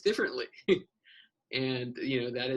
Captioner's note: laughs